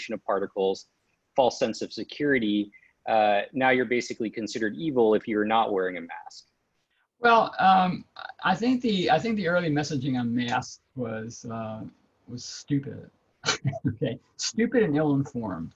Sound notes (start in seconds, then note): 13.4 laughs